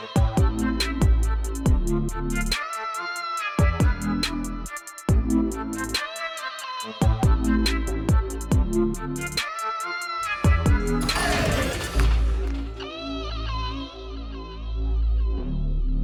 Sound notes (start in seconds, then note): 0.2 rap music; 10.7 ball slamming; 13.4 rap music